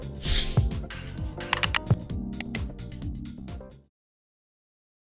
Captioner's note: logo whooshes